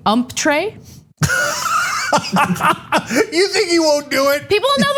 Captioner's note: laugh